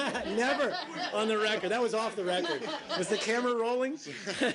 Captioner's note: laughter